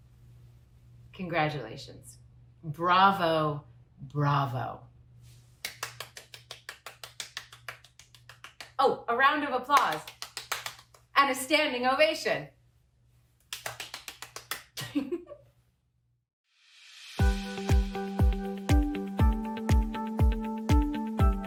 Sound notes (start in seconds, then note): 4.9 applause; 12.6 laughter